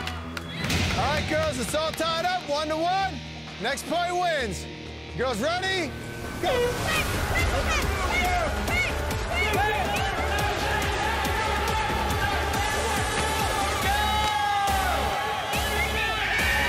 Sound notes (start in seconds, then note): 0.0 clapping; 0.1 dramatic music; 6.4 horn blast; 7.2 exciting music; 7.6 cheering